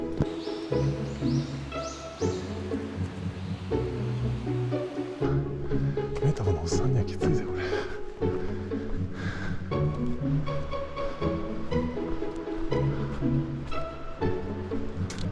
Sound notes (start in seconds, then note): 9.6 laughs